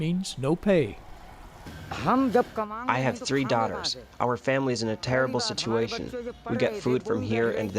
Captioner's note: through translator